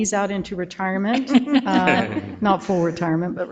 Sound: people chuckle

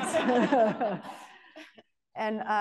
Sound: laughter

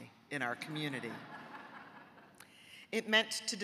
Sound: audience laughing

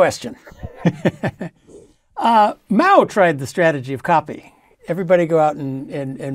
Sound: laugh

